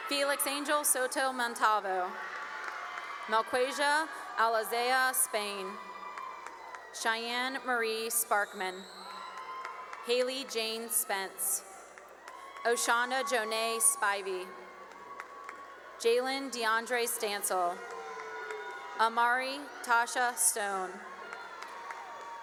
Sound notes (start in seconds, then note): 1.8 cheering and applause; 5.2 cheering and applause; 8.5 cheering and applause; 11.2 cheering and applause; 14.3 cheering and applause; 17.4 cheering and applause; 20.4 cheering and applause